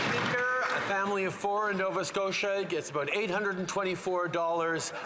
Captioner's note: some Applause